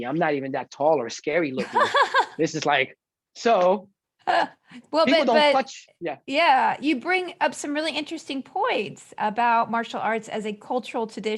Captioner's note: laughter